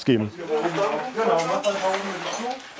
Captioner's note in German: Stimmengewirr